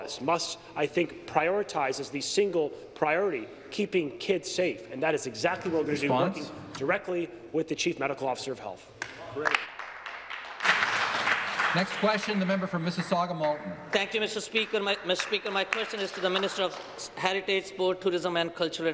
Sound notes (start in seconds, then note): 13.9 applause